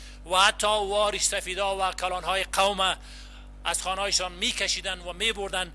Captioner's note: translator speaking in foreign language